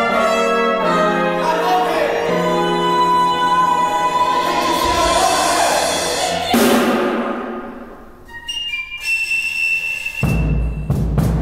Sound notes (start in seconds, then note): 8.4 gunshot